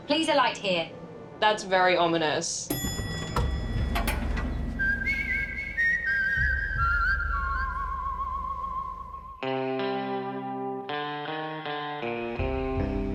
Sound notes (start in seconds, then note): 2.7 ding!; 5.1 suspenseful music